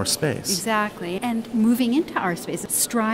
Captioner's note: voiceover